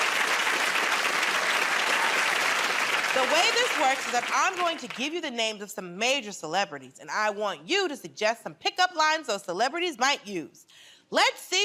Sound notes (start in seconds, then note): 0.0 cheering and applause